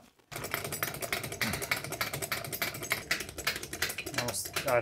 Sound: tool rattling

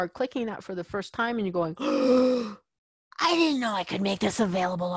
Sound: gasps

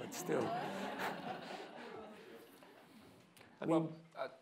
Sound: audience laughing

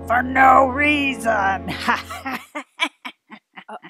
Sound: ominous music; evil laugh

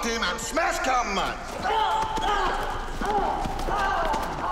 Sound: ahmed grunting

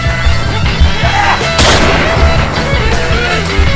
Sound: gun shot

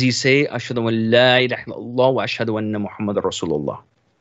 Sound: speaks in Arabic

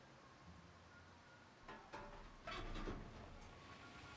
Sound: rain pouring

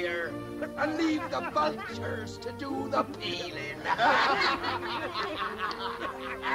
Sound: laughing

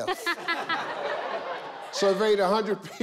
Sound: laughs

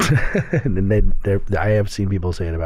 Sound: chuckle

